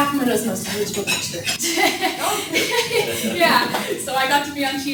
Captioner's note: laughs